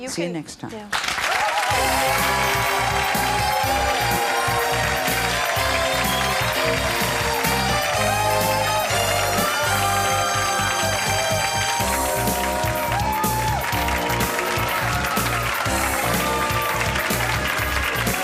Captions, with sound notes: See ya next time. - Thank you. (cheering) (upbeat music)